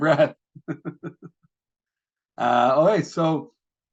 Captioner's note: person laughing